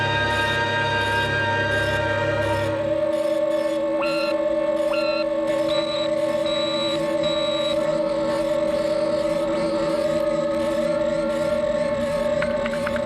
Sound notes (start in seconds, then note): 4.0 more buzzing, snaps and bleeps